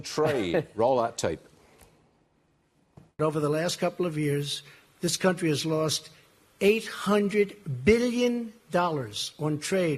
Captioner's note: laughter